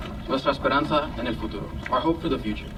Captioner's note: speaks in foreign language